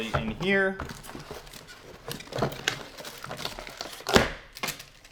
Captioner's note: packaging crinkling